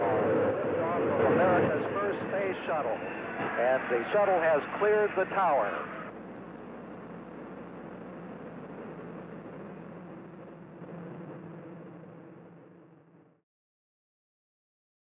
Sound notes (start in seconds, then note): 5.9 roar of rocket enging taking off